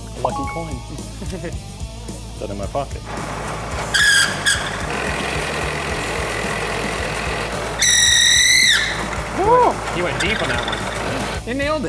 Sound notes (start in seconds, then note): 3.1 drill squeaking